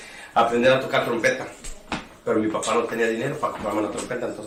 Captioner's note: speaking in Spanish